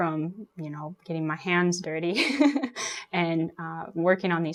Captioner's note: laughs